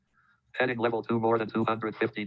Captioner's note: automated Voice